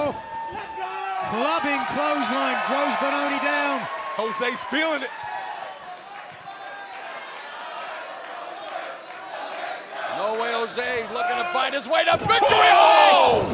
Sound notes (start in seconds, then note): 9.4 fans chanting